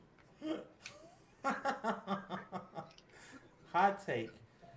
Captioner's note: laughter